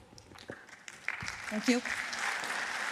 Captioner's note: applause